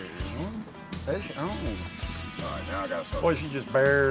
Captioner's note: reel whirring